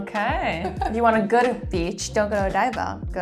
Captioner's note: chuckles